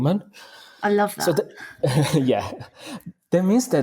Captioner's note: laughing